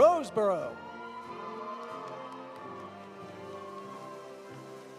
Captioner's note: audience cheering; audience applauding